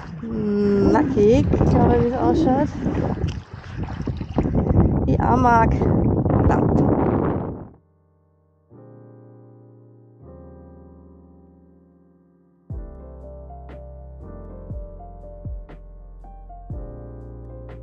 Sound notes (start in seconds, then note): 7.2 wind; 10.2 jazz piano music